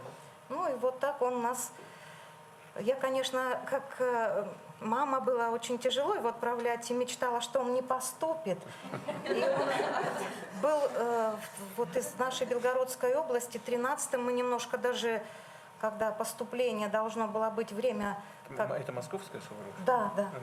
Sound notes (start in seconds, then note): 8.8 laughter